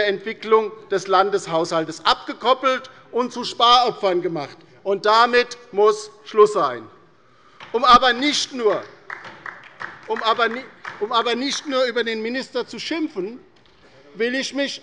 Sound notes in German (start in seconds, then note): 8.6 Beifall bei der LINKEN